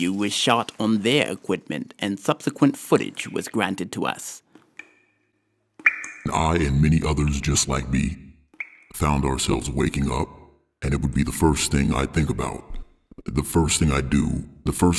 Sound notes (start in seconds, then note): 4.5 hacker distorted voice